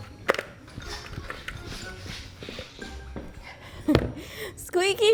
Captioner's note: shoes squeaking; laughs